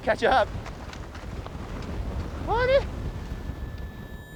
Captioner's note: snow crunching